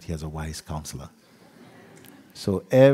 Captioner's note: laughter